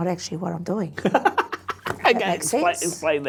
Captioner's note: laughs